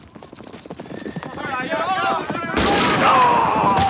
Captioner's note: hooves clop; townsfolk yell; town member groans; gun fires